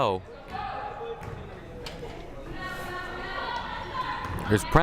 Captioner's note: crowd murmuring